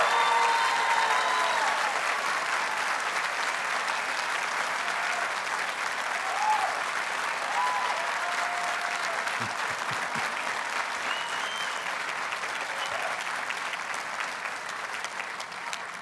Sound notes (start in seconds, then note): 0.7 audience cheers and applauds